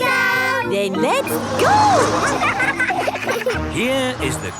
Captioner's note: laughing